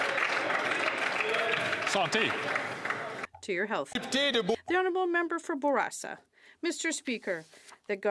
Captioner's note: some Applause